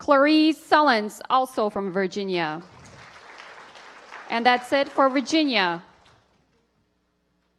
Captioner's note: applause